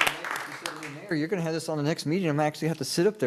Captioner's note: applause